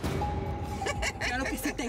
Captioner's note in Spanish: risas